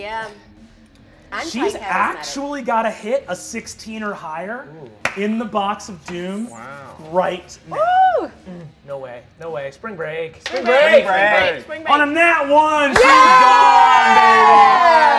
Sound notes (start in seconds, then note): 10.6 all shouting; 12.9 cheering